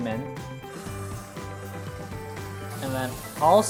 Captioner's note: sizzling